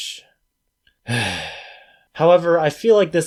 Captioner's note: sigh